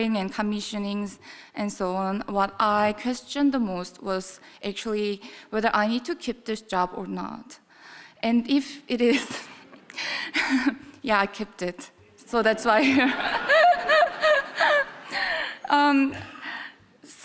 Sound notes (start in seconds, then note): 9.9 chuckling; 12.8 audience laughing; 12.8 laughing